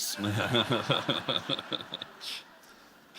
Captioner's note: laughter